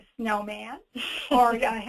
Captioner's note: chuckles